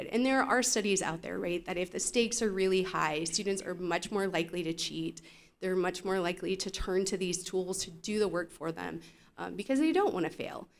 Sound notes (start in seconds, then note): none